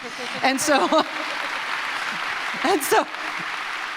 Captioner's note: audience applauds